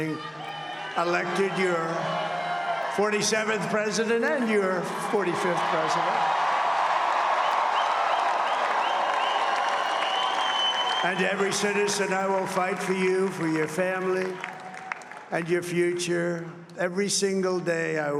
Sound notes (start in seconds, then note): 9.9 applause